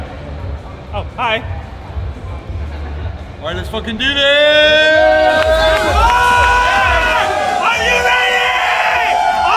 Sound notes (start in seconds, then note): 6.0 crowd cheers